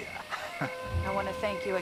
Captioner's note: chortles